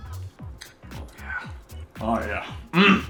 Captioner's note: eats